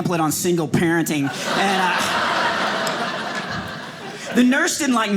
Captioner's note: audience laughing